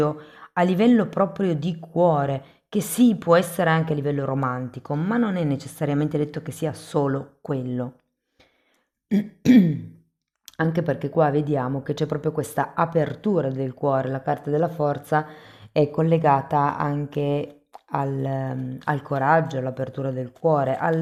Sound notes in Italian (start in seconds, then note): 9.1 schiarire la voce